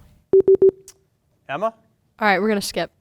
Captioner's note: beep